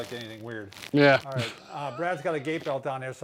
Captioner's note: laughs